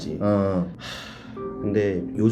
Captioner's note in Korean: 한숨~